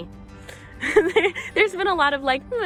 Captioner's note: giggling